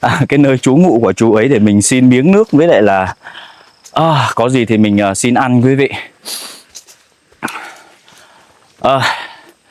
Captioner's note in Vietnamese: khịt mũi